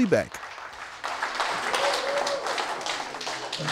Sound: applause

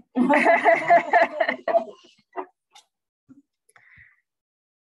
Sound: laughter

